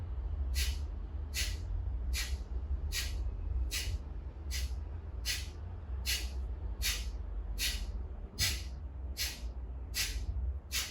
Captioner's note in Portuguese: respiração